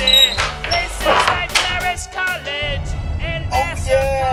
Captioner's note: door closes